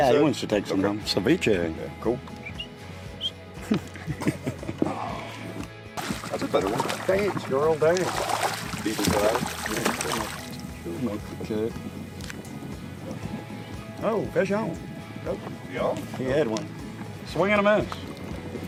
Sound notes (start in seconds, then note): 2.4 whistling; 3.5 men laughing; 5.9 water splashing